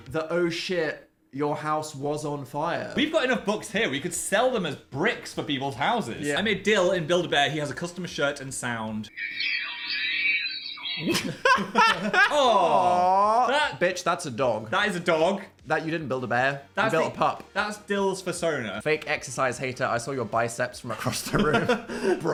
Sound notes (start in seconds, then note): 9.2 Dan and Phil laughing